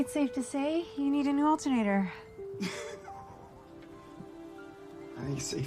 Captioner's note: laughing